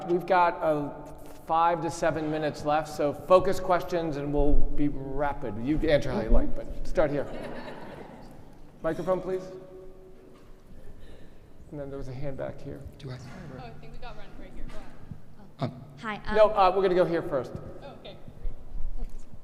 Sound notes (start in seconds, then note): 7.2 audience laughing